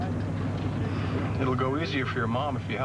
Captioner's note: sighs